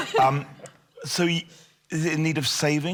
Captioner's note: panellist laughs